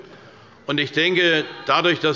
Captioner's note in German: Unruhe – Glockenzeichen des Präsidenten